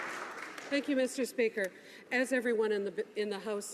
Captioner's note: some Applause